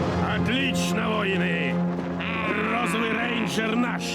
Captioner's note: gleeful screeching